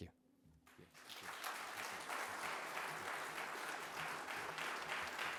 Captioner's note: audience applauds